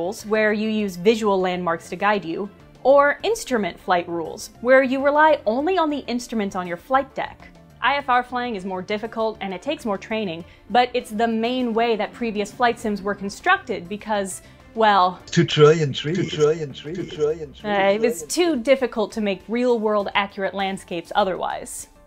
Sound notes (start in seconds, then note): 15.6 echoing “2 trillion trees”